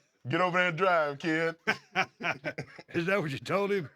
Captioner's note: laugh